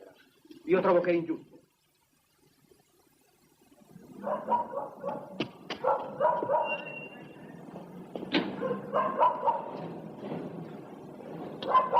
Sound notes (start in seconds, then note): 4.2 dog barking